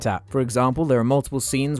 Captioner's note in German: none